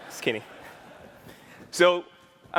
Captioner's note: laughter